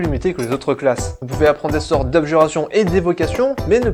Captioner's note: defensive